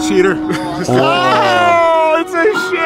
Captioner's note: yelling